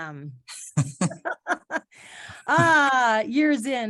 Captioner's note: laughing